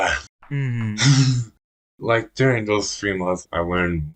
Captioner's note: laughs